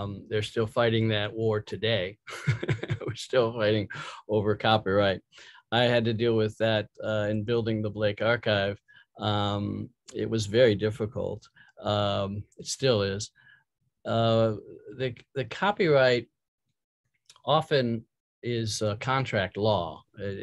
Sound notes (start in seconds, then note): 2.2 laughing